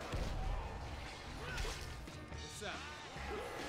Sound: splattering and grunting

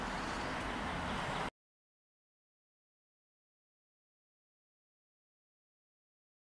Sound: pause

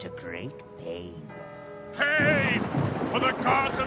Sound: thunder crashing

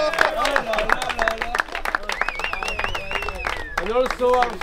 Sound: cheering

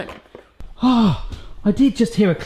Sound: gasps in excitement

